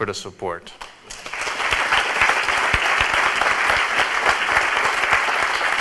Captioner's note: audience applauds